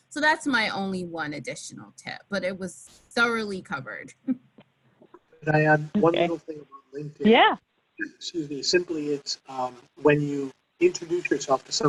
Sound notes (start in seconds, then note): 5.9 laughs